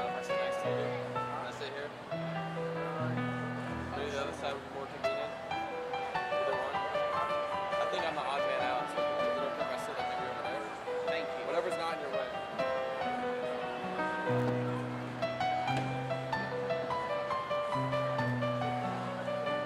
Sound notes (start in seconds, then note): 13.2 crowd chattering; 13.2 gentle piano music